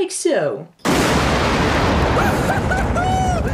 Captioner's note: explosion